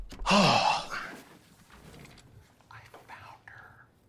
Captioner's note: Oliver sighing